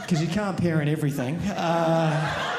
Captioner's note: audience laughing